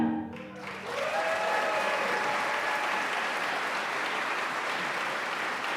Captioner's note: audience applauding and cheering